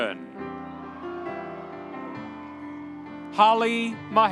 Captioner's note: audience cheering